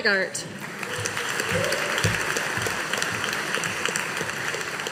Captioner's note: audience applauding